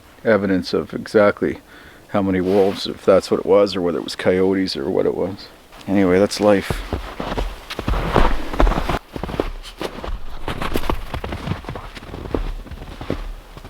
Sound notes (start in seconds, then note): 7.9 snow crunching